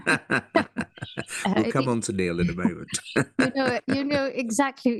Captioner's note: laugh